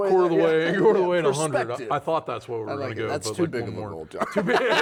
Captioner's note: laughs